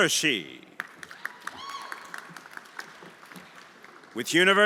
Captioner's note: everyone applauding